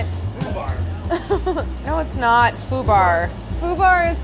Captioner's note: laughing